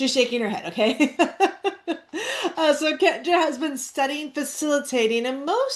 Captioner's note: laughs